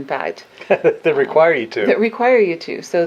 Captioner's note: laughing